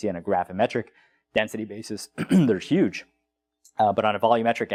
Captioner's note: cough